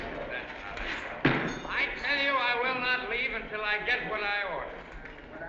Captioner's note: slams Fist